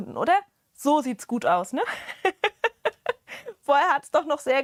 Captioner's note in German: Gelächter